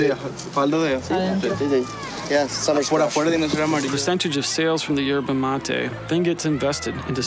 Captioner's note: speaking In Foreign Language